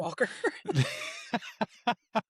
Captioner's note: laughs